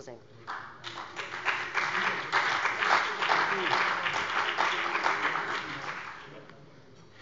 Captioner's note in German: Beifall bei dem BÜNDNIS 90/DIE GRÜNEN und der CDU